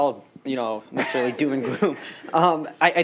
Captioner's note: laughter